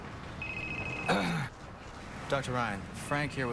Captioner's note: phone rings; clears throat